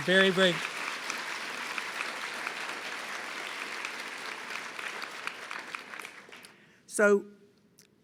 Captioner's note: applause